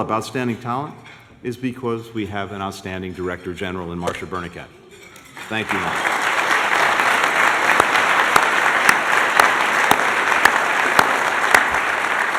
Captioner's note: applause